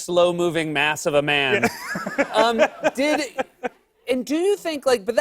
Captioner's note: laughter